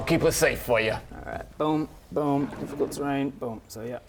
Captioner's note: boom boom; boom